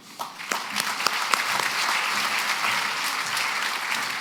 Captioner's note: applause